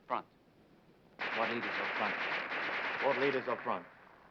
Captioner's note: guns firing